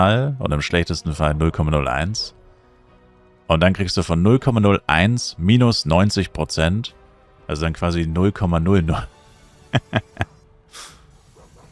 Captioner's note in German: gelächter